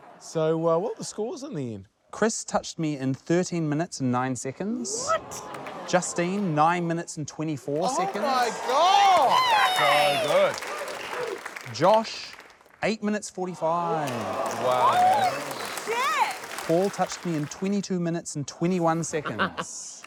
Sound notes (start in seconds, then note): 7.7 applause; 19.0 chuckles